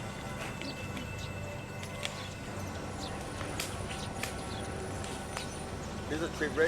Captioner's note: suspenseful music; tree branches cracking